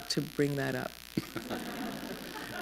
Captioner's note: laughter